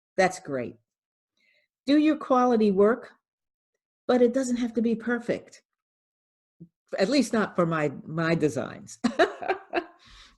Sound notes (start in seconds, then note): 9.2 laughs